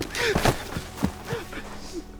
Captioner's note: crying